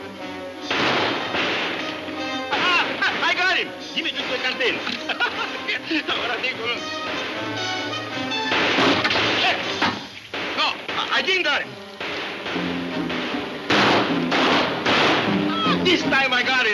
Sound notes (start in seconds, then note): 0.3 guns firing; 5.0 Poncho chuckling; 8.1 guns firing